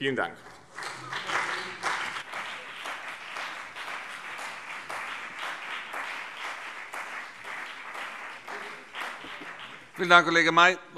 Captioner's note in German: Beifall BÜNDNIS 90/DIE GRÜNEN und CDU